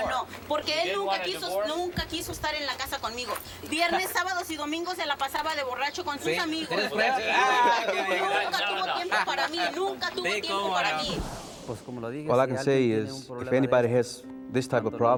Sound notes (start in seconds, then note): 10.4 speaking spanish